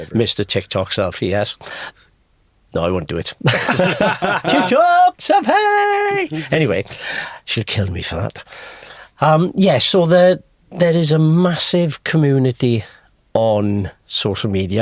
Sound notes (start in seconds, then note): 3.4 podcasters laughing